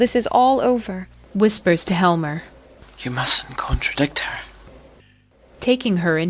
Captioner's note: whispers to HELMER